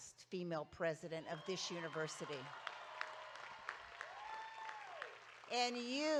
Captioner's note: audience cheering